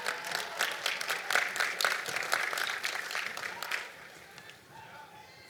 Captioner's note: applause